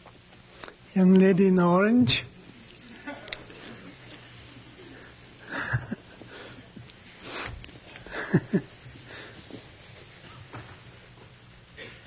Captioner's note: laughs